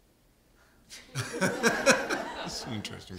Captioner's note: laughter